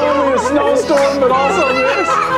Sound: excited yelling

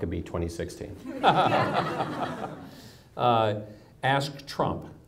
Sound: audience laughs

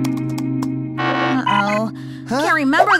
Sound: alarm

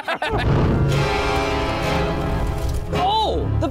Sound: laughing; intense creepy music; smoke whooshing

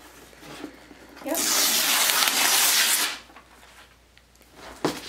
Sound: paper ripping

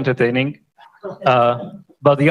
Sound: laughter

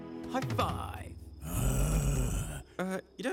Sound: growl

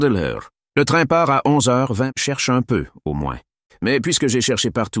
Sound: French

